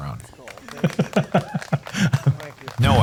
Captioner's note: laughter